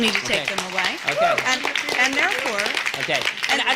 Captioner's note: applause